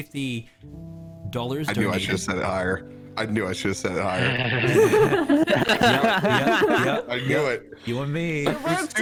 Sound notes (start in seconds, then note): 4.5 more chuckles; 4.6 all begin to chuckle